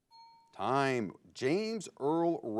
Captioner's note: bell chimes